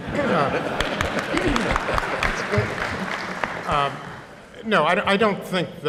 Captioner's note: applause